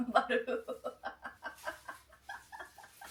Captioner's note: laughing